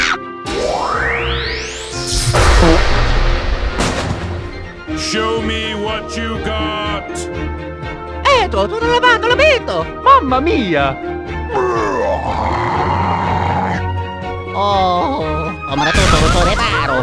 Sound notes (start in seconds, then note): 2.5 fart; 16.8 boom